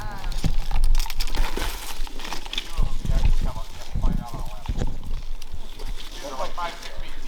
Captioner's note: all chatting; wind rustling